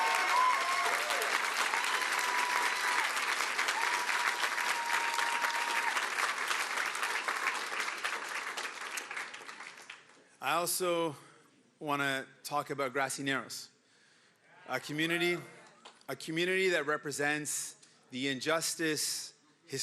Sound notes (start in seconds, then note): 4.9 cheering and Applause